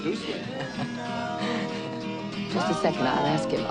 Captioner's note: Mrs. Robinson laughs